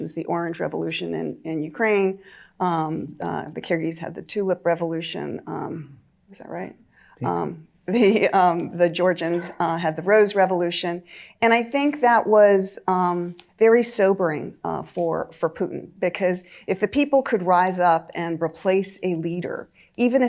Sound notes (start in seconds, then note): 9.2 laughs